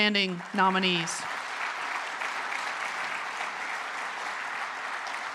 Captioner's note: applause